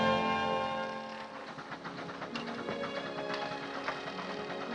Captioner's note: drilling